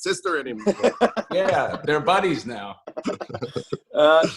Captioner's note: laughter